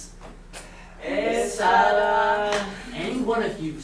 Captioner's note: sailors speaking grammelot